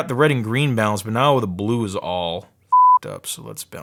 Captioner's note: beep